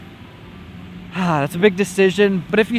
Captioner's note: sigh